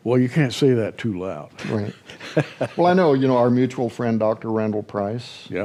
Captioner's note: chuckles